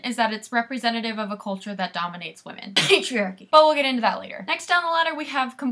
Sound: coughing

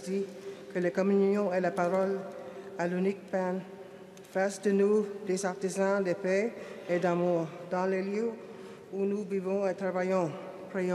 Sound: speaking French

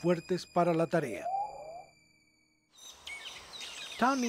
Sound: pigeon call

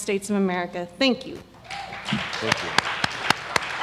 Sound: applause

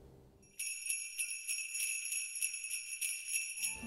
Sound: sleigh bells

